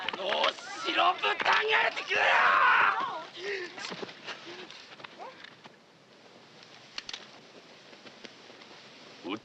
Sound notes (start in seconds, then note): 0.7 speaking Japanese